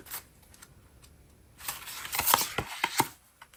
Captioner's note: drawing cards